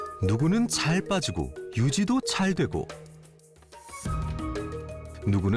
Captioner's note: voiceover